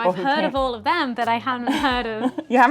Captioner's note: laughs